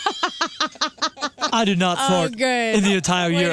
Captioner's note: laughing